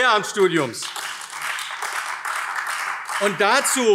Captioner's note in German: Beifall AfD